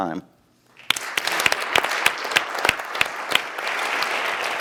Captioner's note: audience applauding